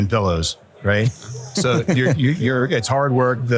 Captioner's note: laughs